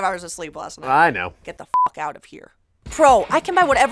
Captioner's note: beep